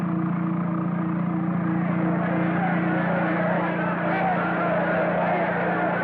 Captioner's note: shouting, Clamoring